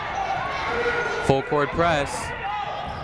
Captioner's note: people shouting in the crowd